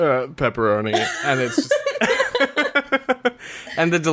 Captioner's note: laughs